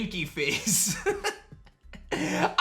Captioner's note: laughs